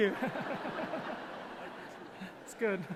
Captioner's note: audience laughing